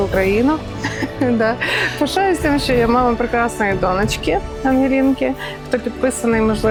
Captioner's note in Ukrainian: сміх